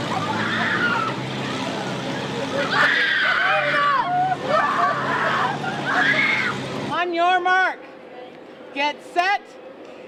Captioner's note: screaming; screaming